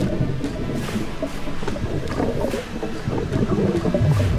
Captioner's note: water gurgles